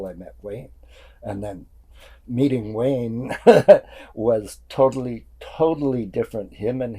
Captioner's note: laughing